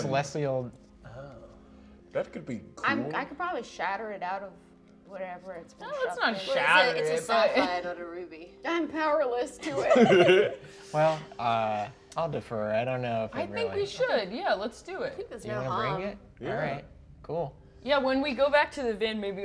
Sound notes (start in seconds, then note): 9.6 laughing